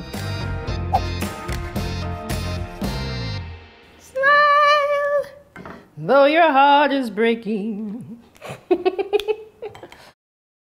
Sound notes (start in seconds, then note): 0.0 upbeat music; 8.4 laughs